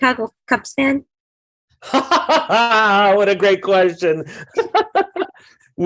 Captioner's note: hearty laugh; laughs